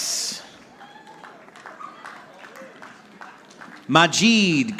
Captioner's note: audience applauding